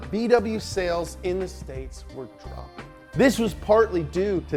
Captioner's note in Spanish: none